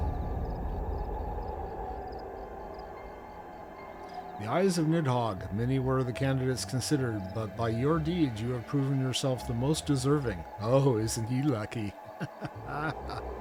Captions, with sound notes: The eyes of Nidhogg. Many were the candidates considered. But by your deeds you have proven yourself the most deserving. Oh isn't he lucky? [Laughter]